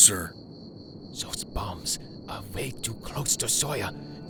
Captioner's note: Albert whispers